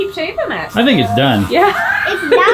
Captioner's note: laughing